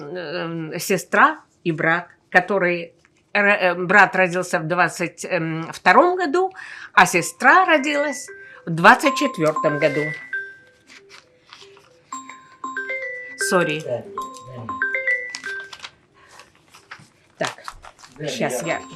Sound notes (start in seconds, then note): 10.3 phone ring